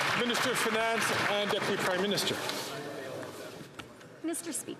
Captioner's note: some Applause